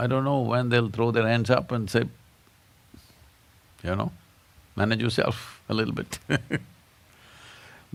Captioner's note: laughs